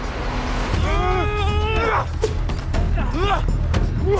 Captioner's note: all moaning